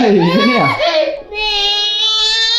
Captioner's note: small child screaming